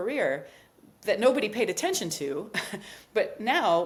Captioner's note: chuckles